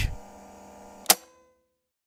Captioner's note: tape player